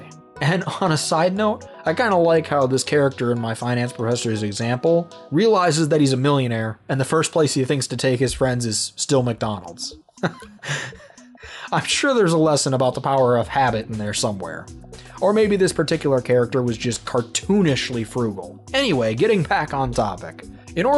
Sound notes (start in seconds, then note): 10.2 chuckle